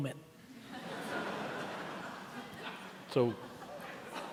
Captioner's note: laughing